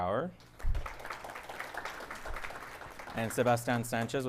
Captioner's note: audience applauding